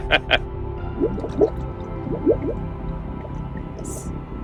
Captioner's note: drowning